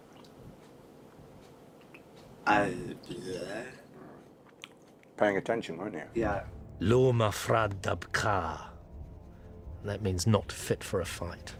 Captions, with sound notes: [MUTTERING] -Paying attention, weren't you? -Yeah. [SPEAKS IN DWARVISH] That means, "Not fit for a fight."